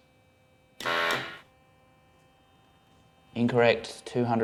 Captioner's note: machine blaring